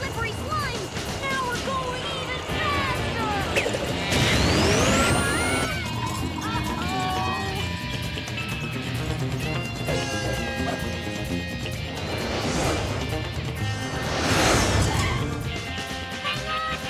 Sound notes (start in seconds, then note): 3.1 both screaming; 6.9 suspenseful music